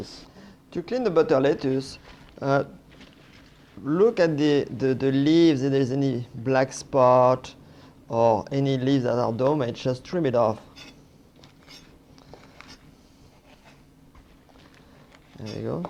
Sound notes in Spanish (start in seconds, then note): none